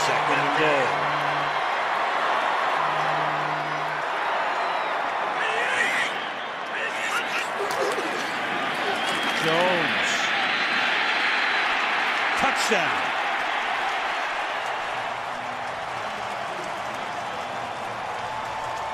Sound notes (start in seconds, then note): 13.4 cheering